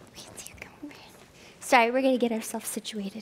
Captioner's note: whispering